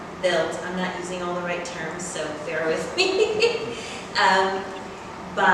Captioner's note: laughs